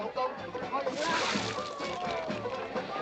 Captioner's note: yammering in Cantonese; splash